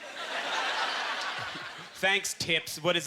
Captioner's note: audience laughter